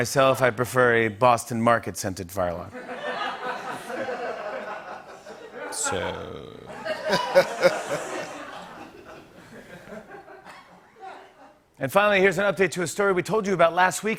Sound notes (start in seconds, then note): 2.7 laughter